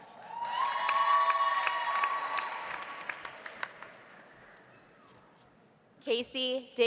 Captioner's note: audience cheering; audience applauding